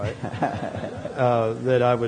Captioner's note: laughter